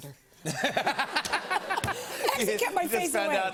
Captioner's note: laughter